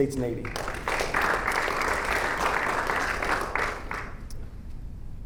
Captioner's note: audience applauding